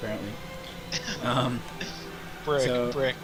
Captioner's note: laughs